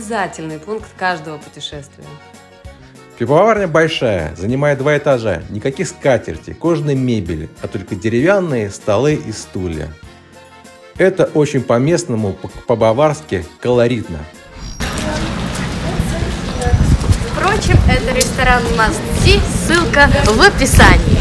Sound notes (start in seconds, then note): 14.5 street noise